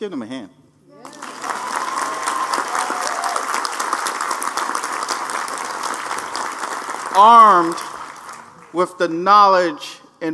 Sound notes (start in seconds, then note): 1.0 applause